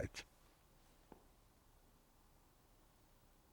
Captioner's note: pauses 6 seconds